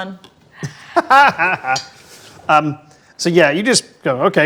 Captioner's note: laughs